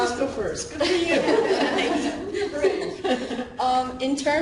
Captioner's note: laughing